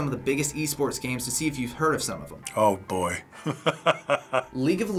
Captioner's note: chuckling